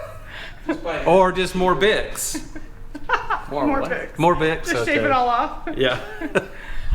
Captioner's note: laughing